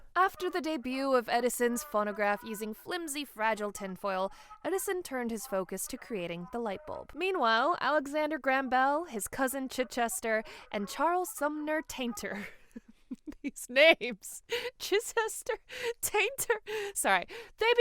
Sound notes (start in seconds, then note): 12.7 laughs